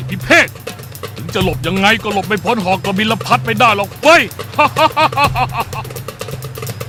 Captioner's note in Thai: หัวเราะ